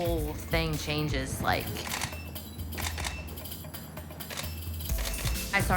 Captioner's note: camera clicking